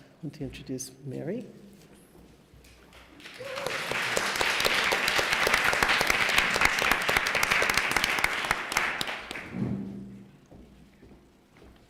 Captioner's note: applause